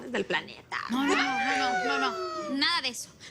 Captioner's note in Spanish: Exclamaciones